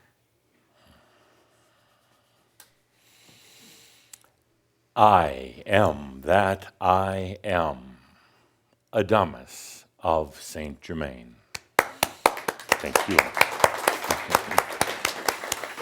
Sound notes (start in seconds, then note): 11.7 audience applause